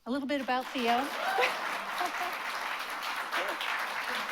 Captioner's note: applause